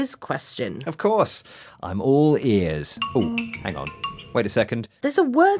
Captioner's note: sound of a smartphone